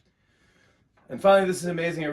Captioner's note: normal voice